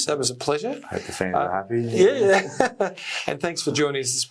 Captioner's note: laughs